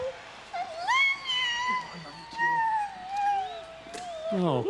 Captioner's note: Daffney squeals